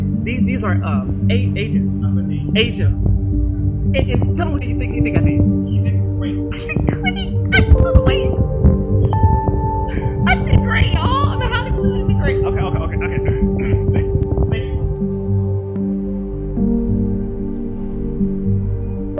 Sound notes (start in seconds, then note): 13.5 clears throat